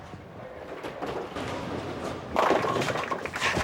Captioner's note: crash